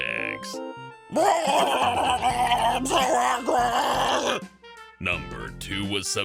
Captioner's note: growling - I'M SO ANGRY